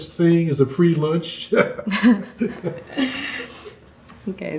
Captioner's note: both laugh